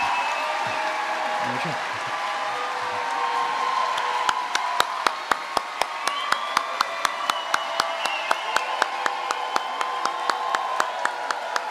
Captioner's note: applause